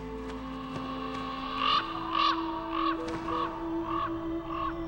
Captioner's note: bird squawking